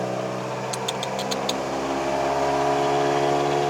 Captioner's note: loud exhaust, but can't go